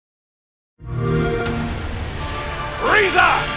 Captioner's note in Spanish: sonido de xbox